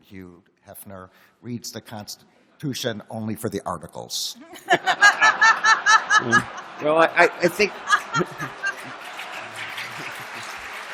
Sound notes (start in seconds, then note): 4.4 laughter; 8.1 applause